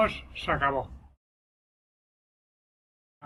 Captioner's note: silence